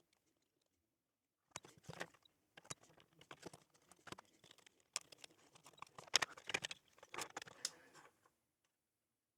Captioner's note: typing